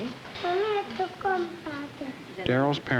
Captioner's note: Spanish speaking